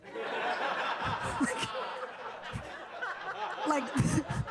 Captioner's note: audience laughing